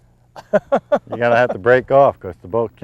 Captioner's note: laughter